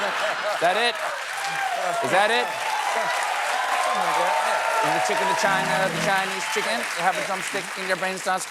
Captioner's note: applause